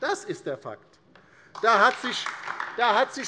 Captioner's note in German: Beifall DIE LINKE